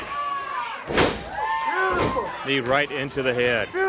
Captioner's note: body thuds